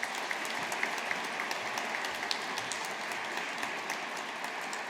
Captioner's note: audience applauding